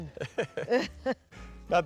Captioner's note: chuckles